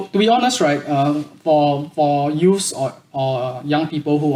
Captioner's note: none